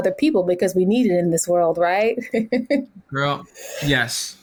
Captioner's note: laughs